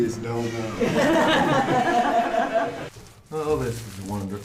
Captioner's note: all laughs